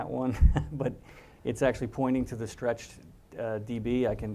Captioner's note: laugh